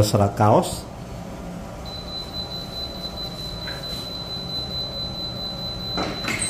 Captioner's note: beeping sound; press machine noise